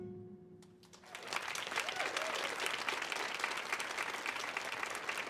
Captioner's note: audience applauding